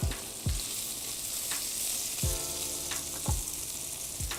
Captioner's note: beef sizzles